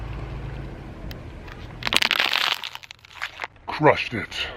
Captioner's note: plastic crinkling